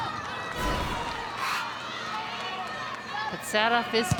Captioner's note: audience cheering